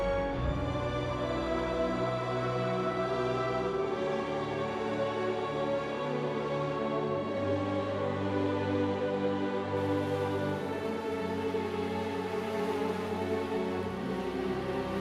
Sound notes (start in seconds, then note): 9.8 water flowing